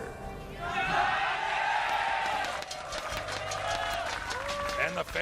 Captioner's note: cheering